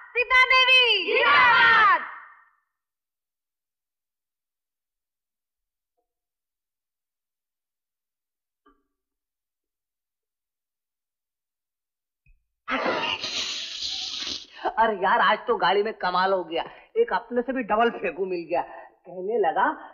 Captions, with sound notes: Long live Ms Sita! - Long live! (Laughs) In the train, I met a liar worse than I am! He was saying...